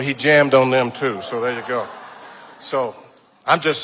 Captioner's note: audience laughing